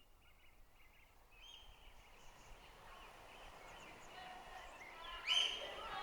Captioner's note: birdsong